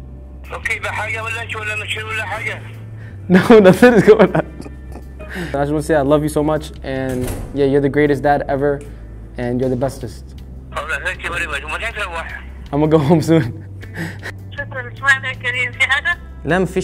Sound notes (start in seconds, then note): 3.8 laughing